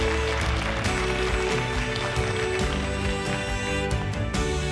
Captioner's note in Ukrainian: оплески